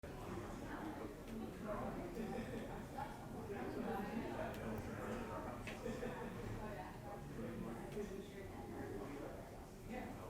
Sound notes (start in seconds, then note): 2.6 distant conversations